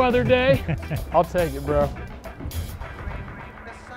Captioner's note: chuckling